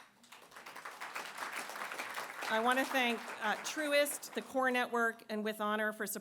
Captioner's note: applause